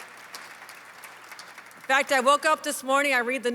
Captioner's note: applause